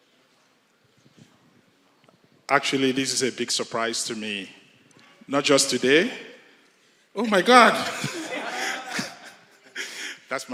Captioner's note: laughter